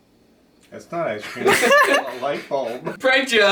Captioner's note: laughing